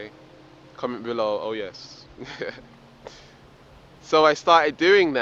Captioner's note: laughs